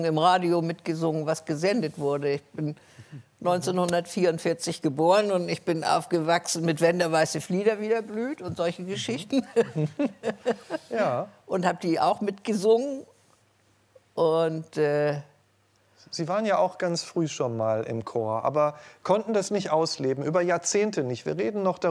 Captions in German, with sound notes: im Radio mitgesungen, was gesendet wurde. Ich bin 1944 geboren und ich bin aufgewachsen mit "Wenn der Weiße Flieder wieder blüht" und solchen Geschichten. (Sie lacht.) Ja. - Und hab die auch mitgesungen. Und ... Sie waren ja auch ganz früh schon mal im Chor, aber konnten das nicht ausleben, über Jahrzehnte nicht.